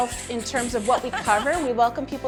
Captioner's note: creaking